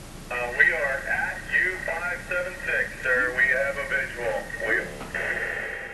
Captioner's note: on Radio